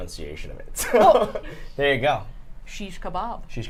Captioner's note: laughs